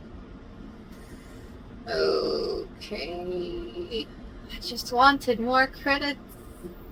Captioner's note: inhales loudly